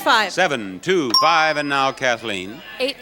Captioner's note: bell dings